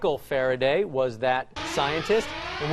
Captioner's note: alarm